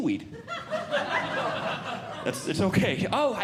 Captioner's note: audience Laughing